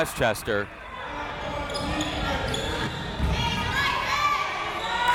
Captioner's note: crowd members shouting